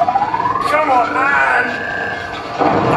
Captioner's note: charging noise; explosion